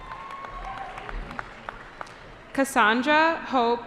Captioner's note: cheering